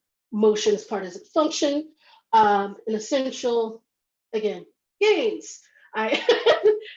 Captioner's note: laughs